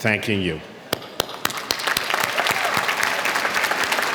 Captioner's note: clapping